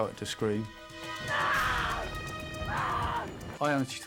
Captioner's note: screaming